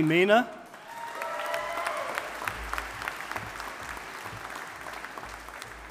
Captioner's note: audience applauding